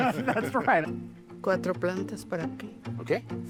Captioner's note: speaking Spanish